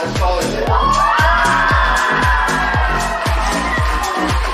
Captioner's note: applause